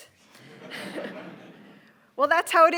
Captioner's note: audience laughing